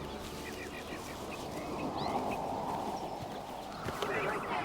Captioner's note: birds chirping